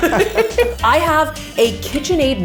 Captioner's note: both laughing